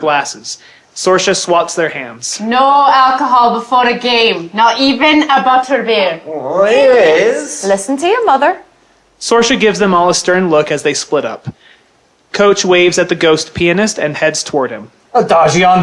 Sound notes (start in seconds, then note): 6.3 whining